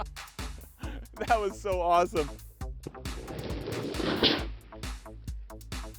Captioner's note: laughing; bottle gushing